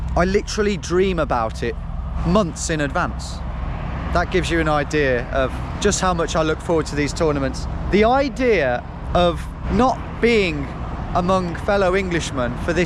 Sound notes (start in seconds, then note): none